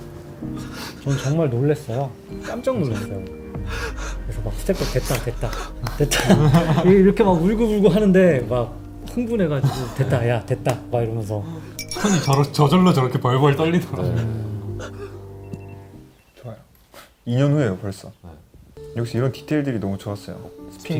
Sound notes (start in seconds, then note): 11.8 shivering